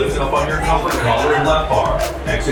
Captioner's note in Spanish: Sistema de megafonía